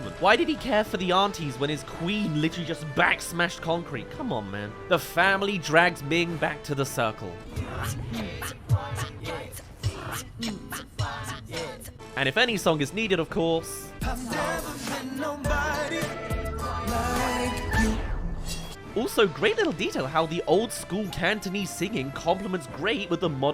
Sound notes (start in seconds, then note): 7.5 beatboxing